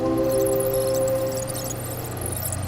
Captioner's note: blinky sounds